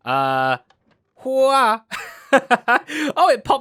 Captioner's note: laughs